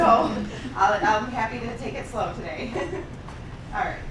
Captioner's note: laughing; laughs